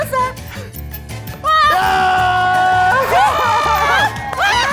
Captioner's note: everyone cheering